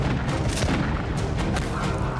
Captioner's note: gunshots